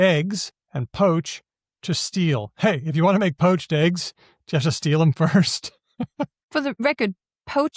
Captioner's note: laughs